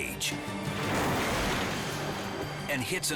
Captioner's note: cage bangs